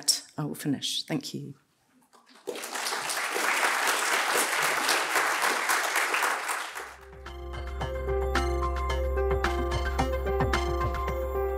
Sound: applause

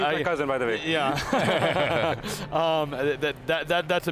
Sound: all laughing

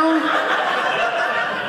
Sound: audience laughing

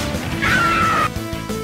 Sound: girl scream

